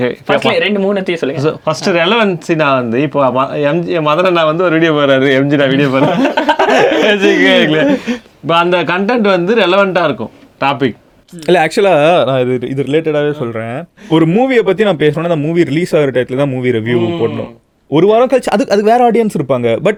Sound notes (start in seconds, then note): 5.7 group laughs